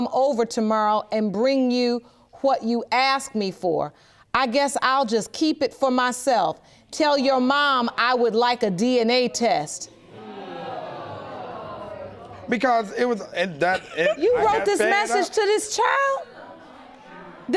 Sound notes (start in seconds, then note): 10.1 audience exclaiming